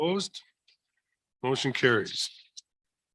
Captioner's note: silence